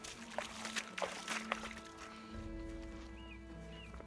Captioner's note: mud squishing; water splashing